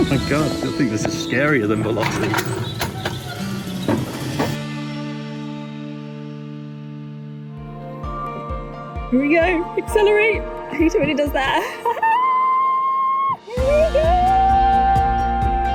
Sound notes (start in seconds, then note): 13.6 cheering